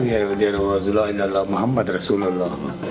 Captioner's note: non-english speech